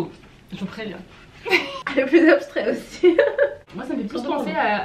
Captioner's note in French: rires